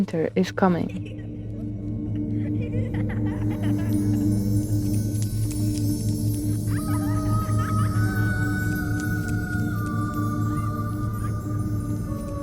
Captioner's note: laughter